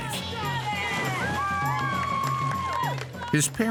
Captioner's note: hollers